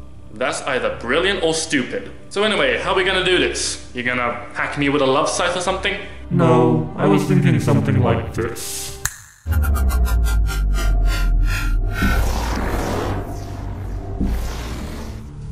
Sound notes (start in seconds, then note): 9.0 snaps Fingers